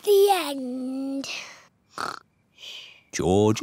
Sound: snores

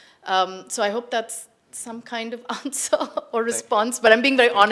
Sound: chuckles

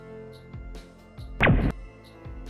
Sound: laser noise

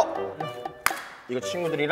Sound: slap!

